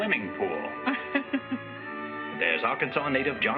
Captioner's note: laughs